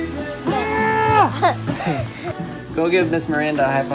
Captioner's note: laughing